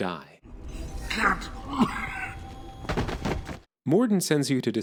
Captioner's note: coughs